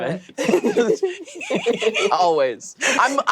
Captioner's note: players giggling